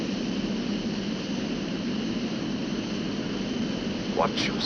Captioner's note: plane whirring